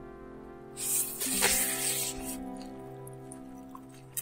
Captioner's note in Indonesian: slurrrppp